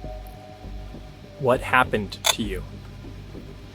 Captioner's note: static crackling